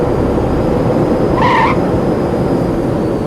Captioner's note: tires screech